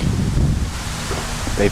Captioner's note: wind